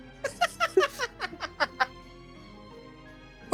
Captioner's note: laughing